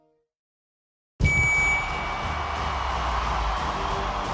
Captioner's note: alegria da multidão